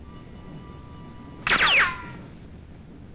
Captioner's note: gunshot